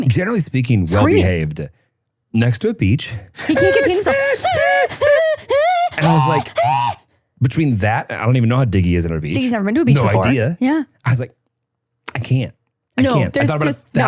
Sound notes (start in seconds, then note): 3.4 people shouting